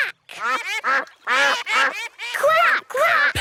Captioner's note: quacking